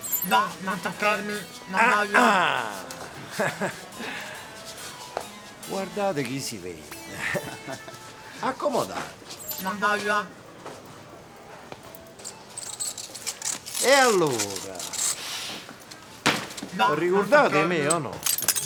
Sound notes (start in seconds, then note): 1.9 Don Ciro clears his throat